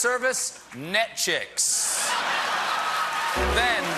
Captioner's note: laughter; applause; piano riff